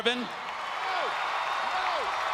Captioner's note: crowd cheering